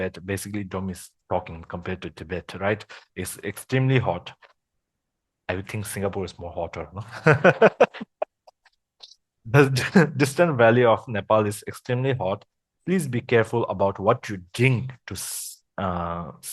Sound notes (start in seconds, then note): 7.1 laughters